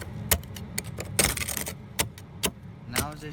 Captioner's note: ice scrape thuds